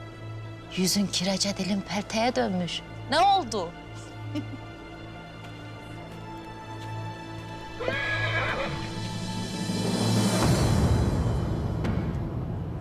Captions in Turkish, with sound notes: Yüzün kirece, dilin pelteye dönmüş. Ne oldu? (At kişniyor) (Gerilim müziği)